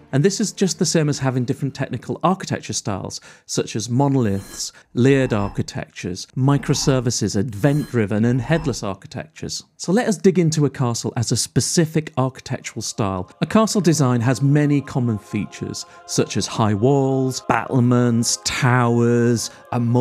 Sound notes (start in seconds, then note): 5.0 graphics whooshing; 13.6 regal music